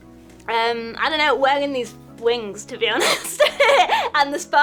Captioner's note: chuckles